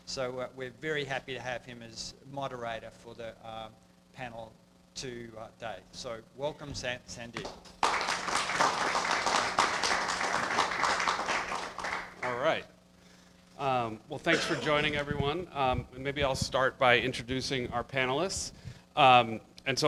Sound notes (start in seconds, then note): 7.4 everyone clapping